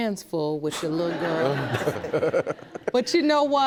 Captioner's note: laughing